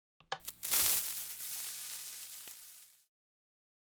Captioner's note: TNT fizz